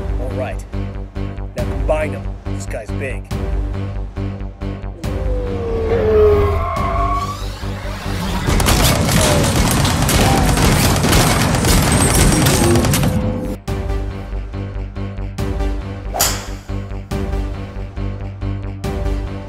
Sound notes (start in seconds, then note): 3.2 danger music; 8.5 gun fire